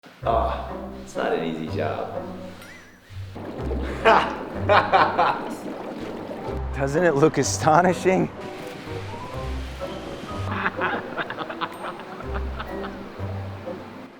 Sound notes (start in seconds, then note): 4.6 laughter; 10.4 laughter